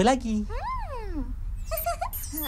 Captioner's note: giggles